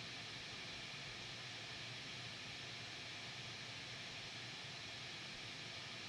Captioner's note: none